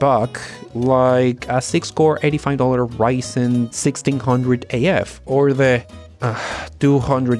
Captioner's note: sigh